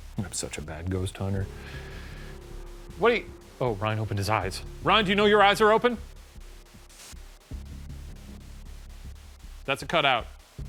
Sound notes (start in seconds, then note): 0.0 suspenseful music; 6.6 suspenseful music; 6.6 white noise